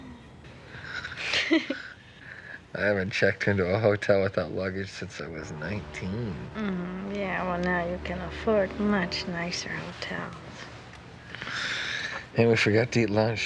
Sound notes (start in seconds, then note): 0.9 giggles